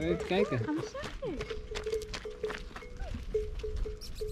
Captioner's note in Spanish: hablando holandés